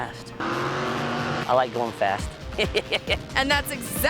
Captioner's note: chuckles